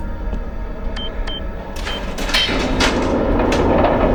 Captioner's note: beeping